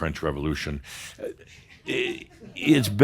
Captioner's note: a couple of chuckles